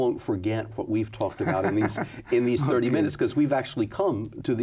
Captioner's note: laughs